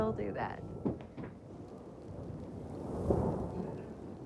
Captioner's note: le tonnerre gronde